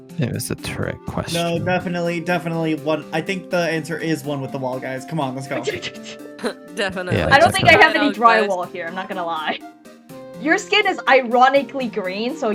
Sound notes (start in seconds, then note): 6.9 laughs